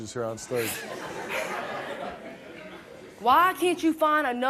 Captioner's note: laughs